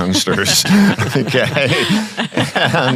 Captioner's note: panel laughing